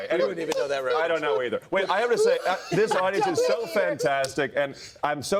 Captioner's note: laughter; laughter